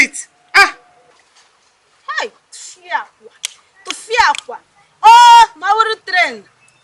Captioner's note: exclamating